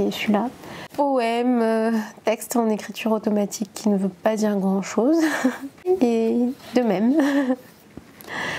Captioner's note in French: rires